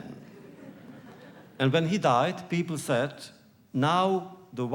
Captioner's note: laughter